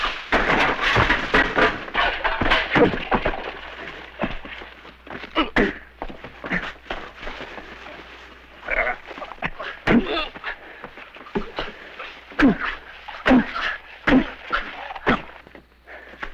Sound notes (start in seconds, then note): 0.0 clattering; 5.1 grunting and thudding